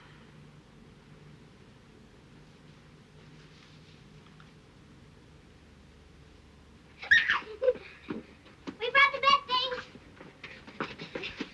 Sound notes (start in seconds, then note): 7.0 girls laugh